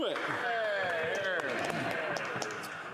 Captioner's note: applause